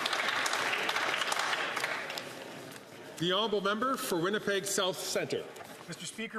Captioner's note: some Applause